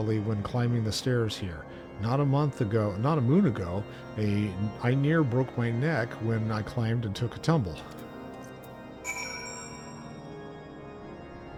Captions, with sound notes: when climbing the stairs here. Not a month ago, not a moon ago, I near broke my neck when I climbed and took a tumble. [bell rings]